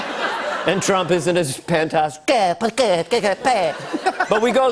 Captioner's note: laughter; speaking gibberish